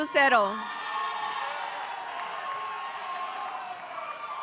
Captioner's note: audience cheering